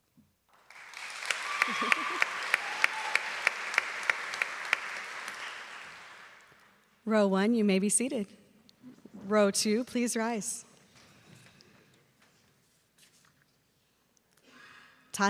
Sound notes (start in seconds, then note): 6.1 applause